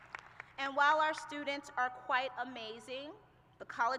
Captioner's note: applause